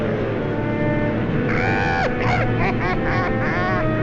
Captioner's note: bird cawing